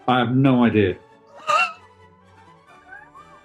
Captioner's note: scoffs